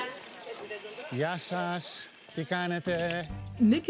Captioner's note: speaking in greek